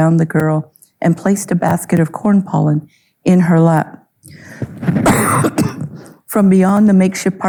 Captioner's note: coughing